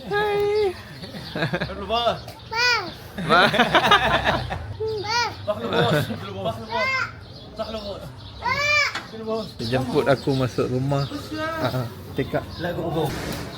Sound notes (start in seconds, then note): 1.6 speaking Arabic; 2.6 laugh; 4.8 toddler uttering; 5.1 speaking Arabic; 8.4 toddler uttering